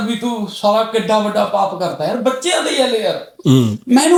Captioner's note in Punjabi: ਗਲਾ ਸਾਫ਼ ਕਰਨ ਦੀ ਅਵਾਜ਼